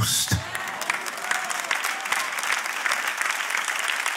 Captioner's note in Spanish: Aplausos